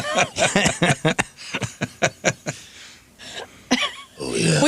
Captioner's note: laughter